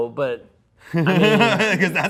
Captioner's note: laughs